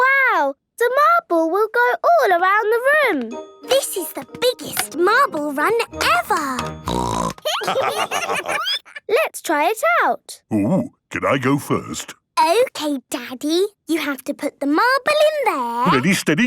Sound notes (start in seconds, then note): 6.8 snorting; 7.4 laughter